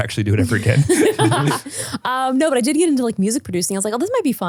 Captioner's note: laughs